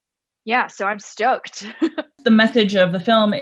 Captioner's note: laughs